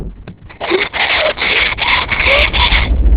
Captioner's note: panting